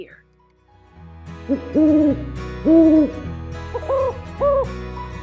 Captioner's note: owl sounds